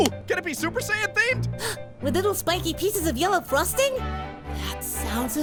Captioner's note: gasp